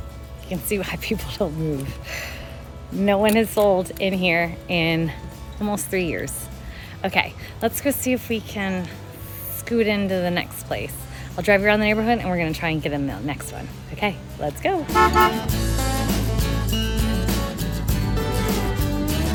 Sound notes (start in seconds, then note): 14.4 upbeat music continues; 14.9 car horn honks